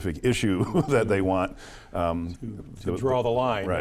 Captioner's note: chuckles